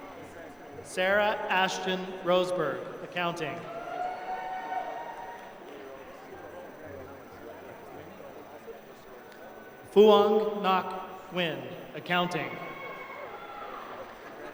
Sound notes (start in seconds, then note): 8.0 applause